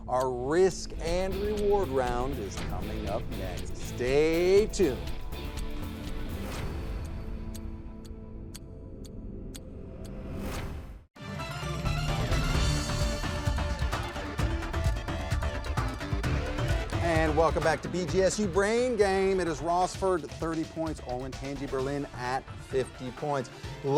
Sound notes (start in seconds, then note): 6.0 clock ticking; 6.0 upbeat music; 11.1 lively music